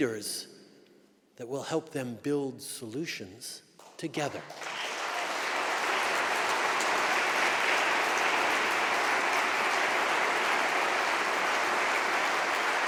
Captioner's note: applause